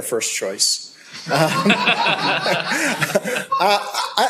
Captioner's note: laughter